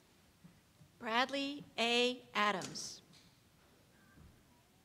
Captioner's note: voiceover